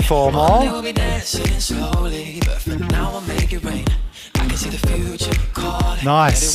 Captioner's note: breathing heavily